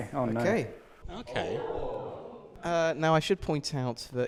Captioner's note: they ooh